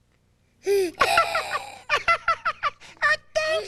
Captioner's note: giggling